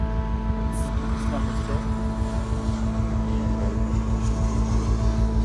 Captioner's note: airplane engines roar